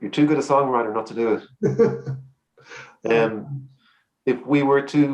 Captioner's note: laughs